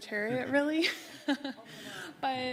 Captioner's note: laughs